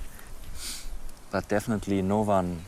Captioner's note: sniffs